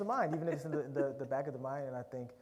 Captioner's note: laughter